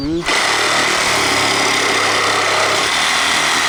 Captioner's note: saw buzzing